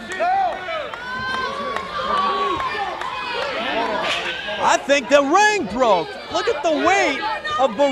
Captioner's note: fans cheering